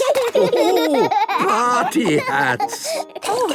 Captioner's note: laughing